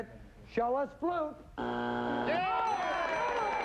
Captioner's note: buzzer